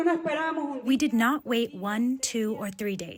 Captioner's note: through translator